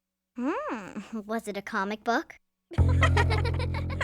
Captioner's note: laughing